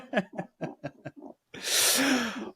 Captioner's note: laughing